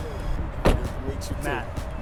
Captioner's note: voiceover